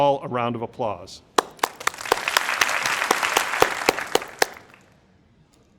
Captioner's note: crowd applauding